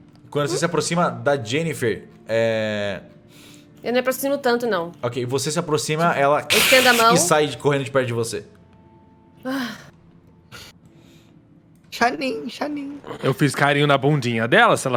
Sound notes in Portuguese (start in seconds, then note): 6.3 grunhido; 9.5 suspira